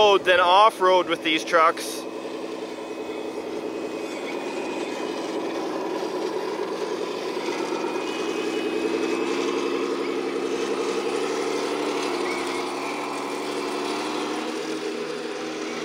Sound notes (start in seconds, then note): 2.1 machine rumbling